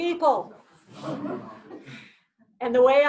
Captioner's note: laughs